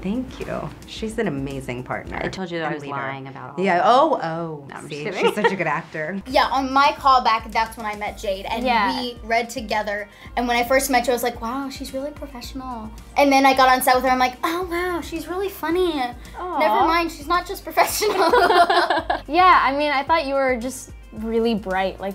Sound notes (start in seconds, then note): 18.0 laughs